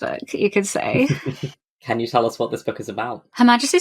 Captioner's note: laughs